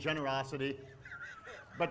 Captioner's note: laughs